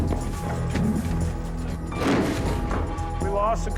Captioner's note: crack